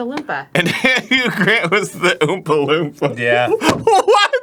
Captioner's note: laughing